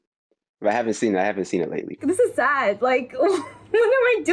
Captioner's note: laughs